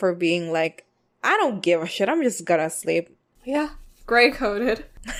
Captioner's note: both laugh